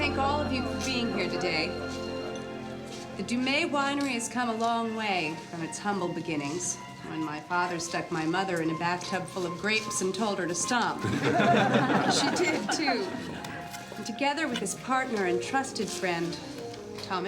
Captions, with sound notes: - I'd like to thank all of you for being here today, the Dumay Winery has come a long way from it's humble beginnings, when my father stuck my mother in a bathtub full of grapes and told her to stomp. (laughing) She did too. And together with it's partner and trusted friend,